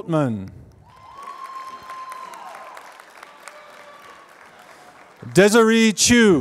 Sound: applause

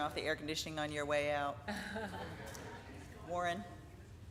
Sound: laughing

